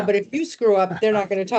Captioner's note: laughing